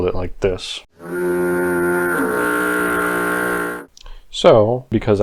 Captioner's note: foghorn sound effect